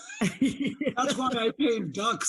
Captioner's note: laughing